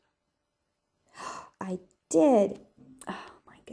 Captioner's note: gasps